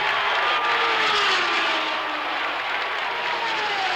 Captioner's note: crowd roars